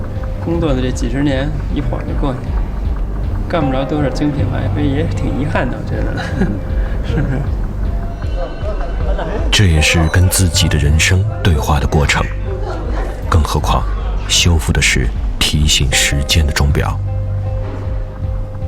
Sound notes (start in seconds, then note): 4.2 chuckles